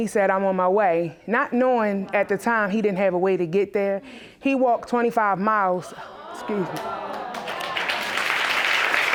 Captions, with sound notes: not knowing at the time he didn't have a way to get there. He walked 25 miles. (AUDIENCE EXCLAIMING) Excuse me. (AUDIENCE APPLAUDING)